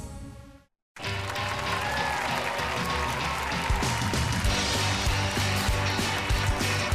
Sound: claps and applauses

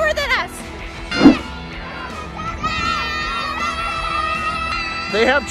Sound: children cheering

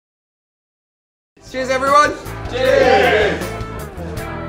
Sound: cheers

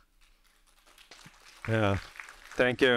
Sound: audience applauding

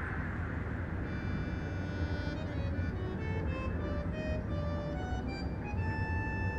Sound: ship engine roaring; gentle orchestral music

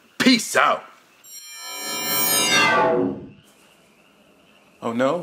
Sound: electricity buzzing

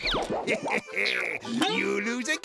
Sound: laughs

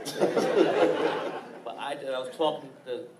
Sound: laughing

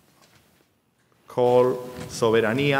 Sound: speaking in a foreign language

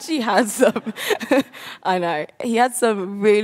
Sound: laughs

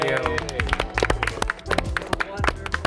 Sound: group clapping and cheering

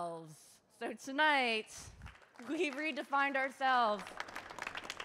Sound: audience clapping

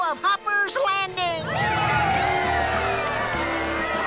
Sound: crowd cheering

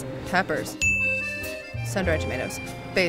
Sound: bell dinging

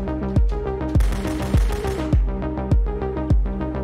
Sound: gun fire

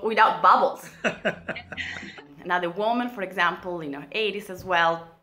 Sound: laughing

